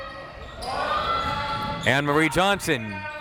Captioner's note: crowd members shouting